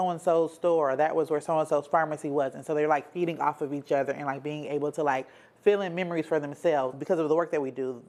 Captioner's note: none